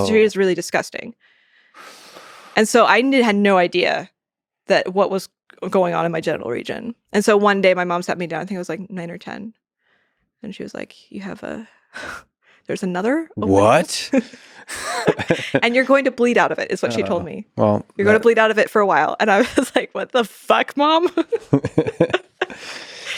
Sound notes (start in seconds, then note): 13.5 chuckles; 14.7 laughs; 21.1 laughs